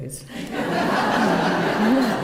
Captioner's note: laughter